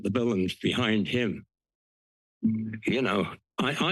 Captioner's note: pause